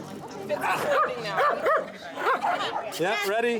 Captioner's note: dog barking